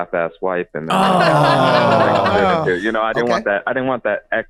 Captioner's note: everyone gasps